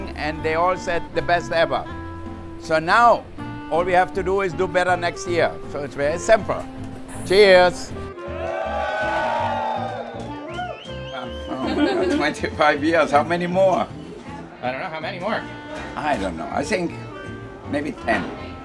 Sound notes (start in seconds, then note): 8.2 cheers